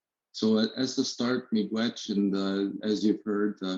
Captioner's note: speaking in a foreign language